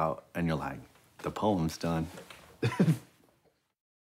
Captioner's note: laughs